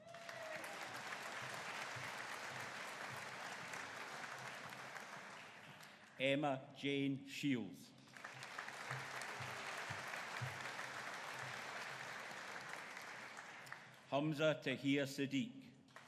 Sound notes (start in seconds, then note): 0.0 audience cheering; 8.0 audience applauding